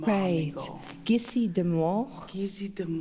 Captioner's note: In Mi’kmaq